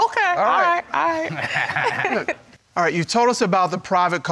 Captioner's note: chuckling